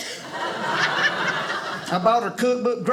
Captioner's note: audience laughing